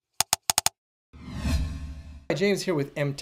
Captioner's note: keyboard tapping; loud swoosh